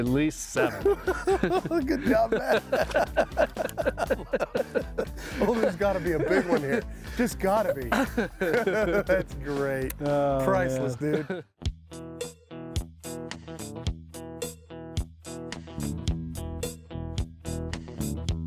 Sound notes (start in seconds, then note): 0.6 laughing; 3.7 both laughing; 11.9 laid-back guitar music